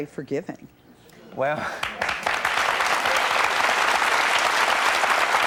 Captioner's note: clapping